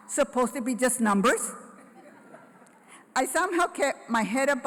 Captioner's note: laughter